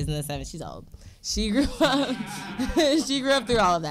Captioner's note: audience laughing